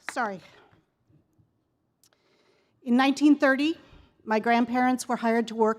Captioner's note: applause